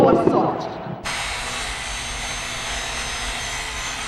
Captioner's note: metal grinding